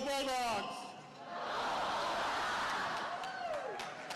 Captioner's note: crowd